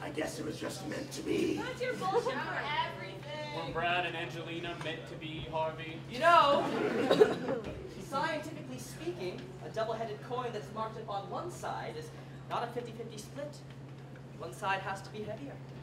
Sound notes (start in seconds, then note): 6.5 laughter